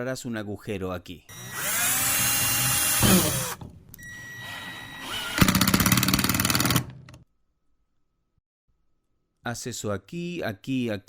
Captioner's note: Se oye el taladro